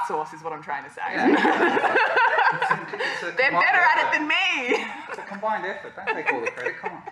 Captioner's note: laughter